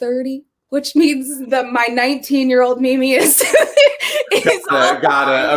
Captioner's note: laughs